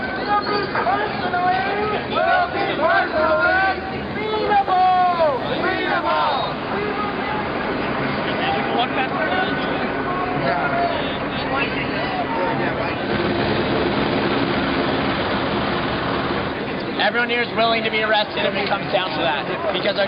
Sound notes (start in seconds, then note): 0.2 voiceover; 4.4 voiceover; 13.6 helicopter propellers roaring